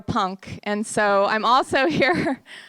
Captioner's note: chuckles